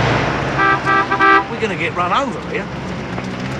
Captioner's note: horn Honking